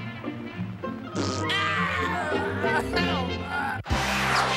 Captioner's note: crying